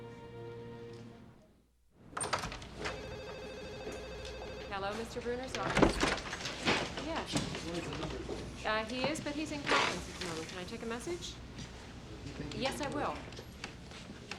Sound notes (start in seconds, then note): 2.8 phone ringing